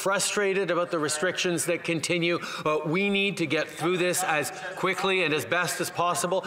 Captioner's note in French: voix de l'interprète